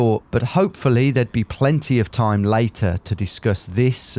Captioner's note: none